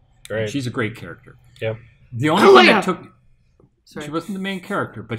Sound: coughs

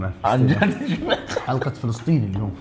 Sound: laughs

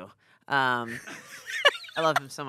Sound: everyone laughs

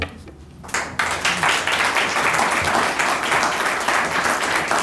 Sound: audience applauding

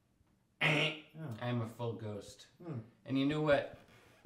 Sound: mimics buzzer

